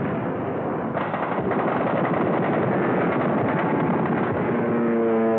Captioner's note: gunfire